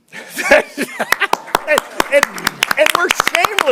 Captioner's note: laughter